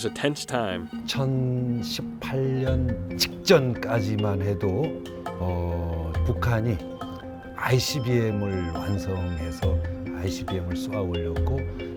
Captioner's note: non-english speech